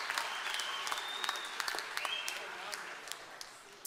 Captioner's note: applause